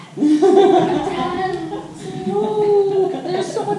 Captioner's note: laughter